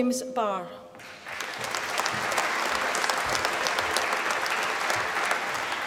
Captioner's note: applause